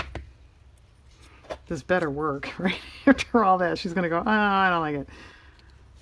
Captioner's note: laughs